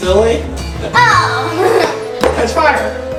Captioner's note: laughs